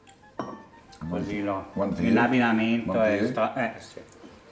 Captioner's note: speaks dialect